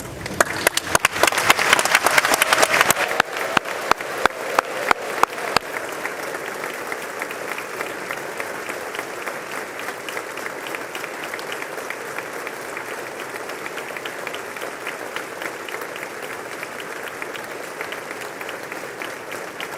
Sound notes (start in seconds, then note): 8.5 applause